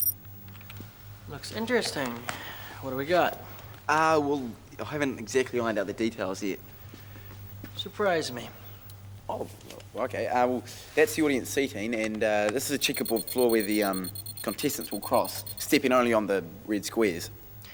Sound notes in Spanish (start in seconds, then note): none